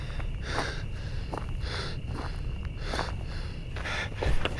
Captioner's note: heavy breathing